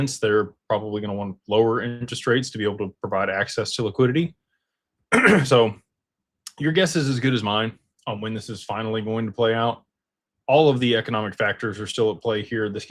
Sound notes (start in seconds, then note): 5.1 clears throat